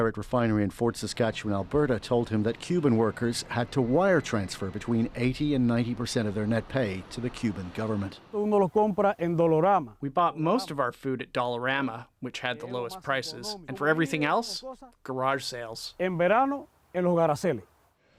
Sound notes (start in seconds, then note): 11.5 speaking alternate language